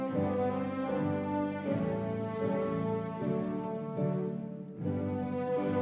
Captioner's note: none